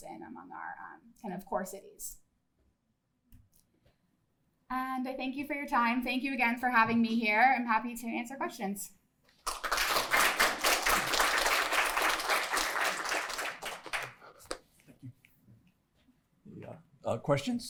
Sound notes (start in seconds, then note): 9.4 applause